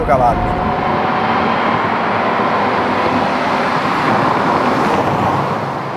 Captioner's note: engine at high Rpm